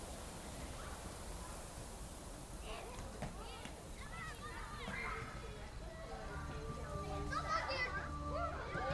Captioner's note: people talking in the distance